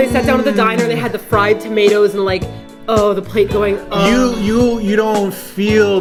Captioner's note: moaning